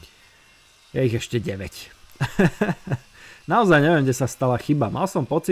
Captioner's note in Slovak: smiech